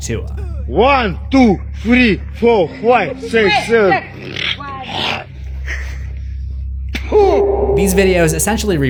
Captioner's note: clears throat